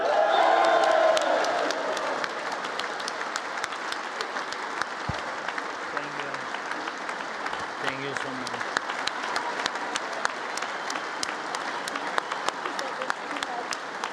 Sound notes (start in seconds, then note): 0.1 congress applauding; 9.0 congress applauding